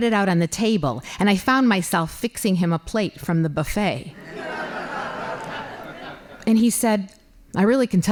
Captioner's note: laughing